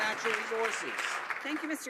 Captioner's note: some Applause